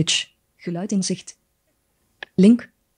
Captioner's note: speaks in foreign language